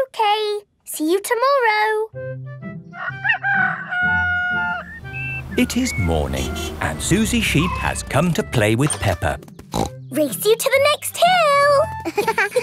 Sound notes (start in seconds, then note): 2.9 rooster crowing; 9.7 snorts